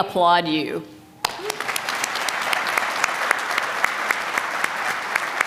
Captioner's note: applause